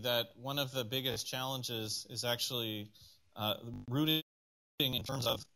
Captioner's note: audio malfunction